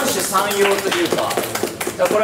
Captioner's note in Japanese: 拍手